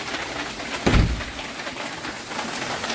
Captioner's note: door closes